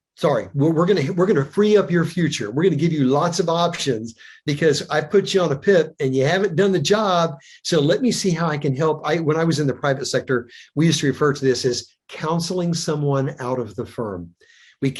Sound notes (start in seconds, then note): none